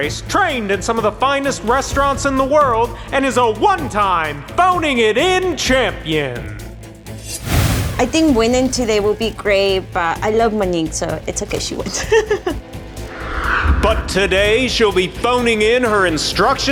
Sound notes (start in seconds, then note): 7.2 air whooshing; 11.6 laughs